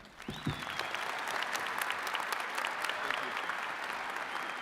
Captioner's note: attendees cheering and clapping